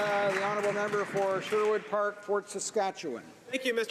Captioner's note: some Applause